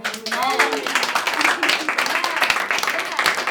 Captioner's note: everyone applauds